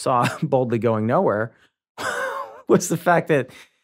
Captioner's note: chuckles